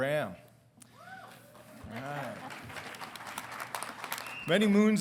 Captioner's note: congregation clapping